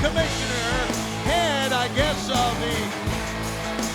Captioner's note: crowd cheering